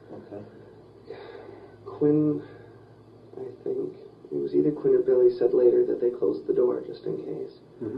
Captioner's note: sighs